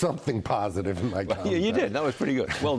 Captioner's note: laughter